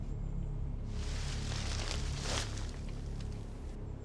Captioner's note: rustling